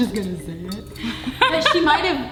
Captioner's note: laughing